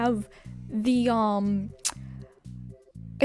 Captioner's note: clicks tongue